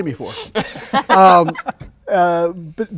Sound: laughing

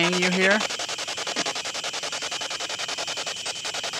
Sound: static pulsing

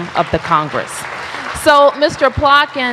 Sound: applause

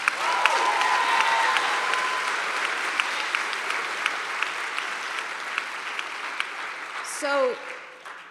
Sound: applause

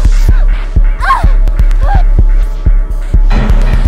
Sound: whimpering; ominous music

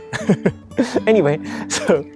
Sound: chuckles

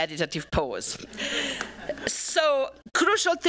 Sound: laughter

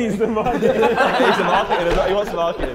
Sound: Sidemen laughing

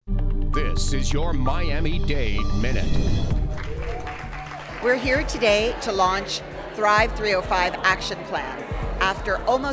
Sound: applause

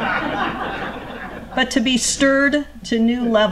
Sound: laughter

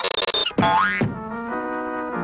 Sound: smacking, banging, various other sound effects; BOING thump

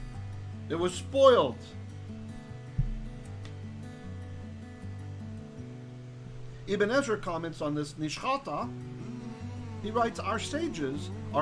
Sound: Hebrew; hebrew

